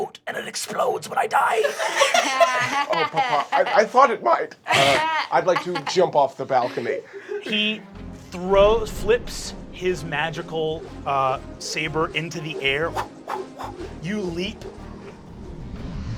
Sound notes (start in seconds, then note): 1.5 everyone laughing